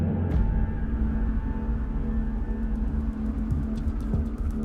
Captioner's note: wind rustling